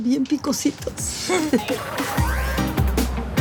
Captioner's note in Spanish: Risas